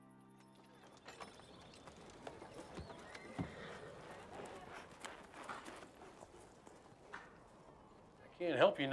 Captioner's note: horse trotting, jingling